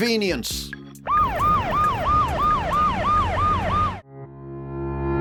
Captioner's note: sirens